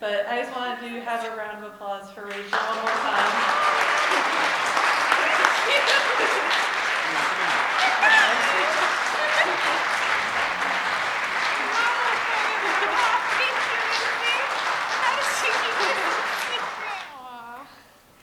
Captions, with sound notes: i just wanted to have a round of applause for Rachel one more time (applause) Thank you (laughs) (applause) Oh my gosh Photo op, thank you Lindsey. How did you keep this a secret?